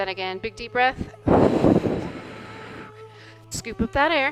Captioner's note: deep breath